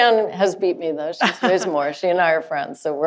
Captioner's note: laughing